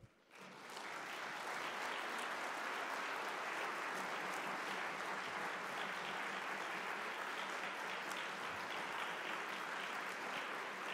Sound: applause

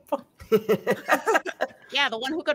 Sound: laughs

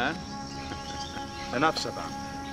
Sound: chortles

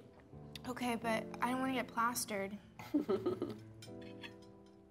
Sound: Spring laughs

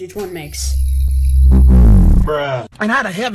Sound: farts again

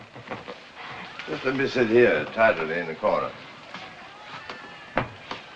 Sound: chuckles

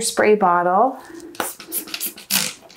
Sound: sprays

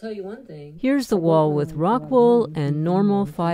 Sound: audio from speaker

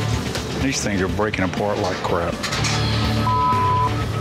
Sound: beep

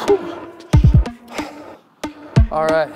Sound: exhales sharply

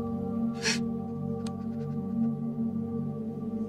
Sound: Jack crying

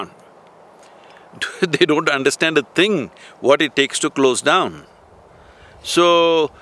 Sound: laughs

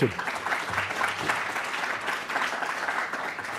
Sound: applause

